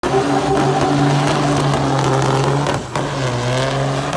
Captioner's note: engine revving